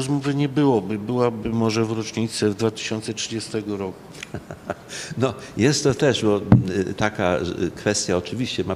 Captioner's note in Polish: śmiech